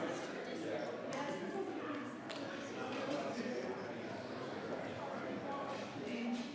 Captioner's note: attendees chattering continues